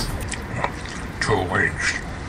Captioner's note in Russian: чавкание